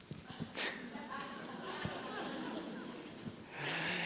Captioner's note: laughter